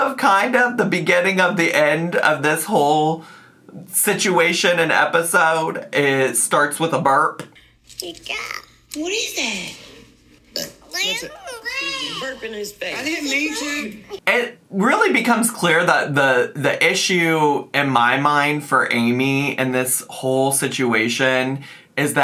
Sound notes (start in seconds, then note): 8.2 babbling; 10.6 Amy burps